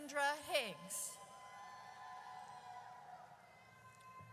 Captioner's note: audience cheers